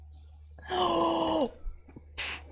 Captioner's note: horrified gasp